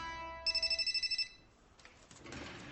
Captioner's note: phone ringing